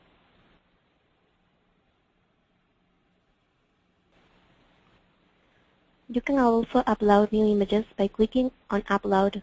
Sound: pause

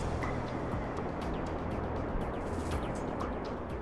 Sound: wind roars

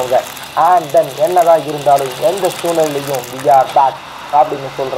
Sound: radio plays

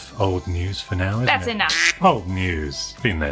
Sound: duck quacks

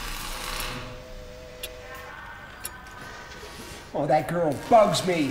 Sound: clock ticking

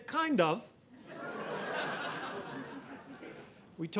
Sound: audience laughing

